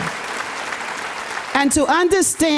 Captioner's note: audience applauding